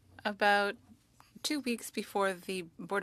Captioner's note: speaking French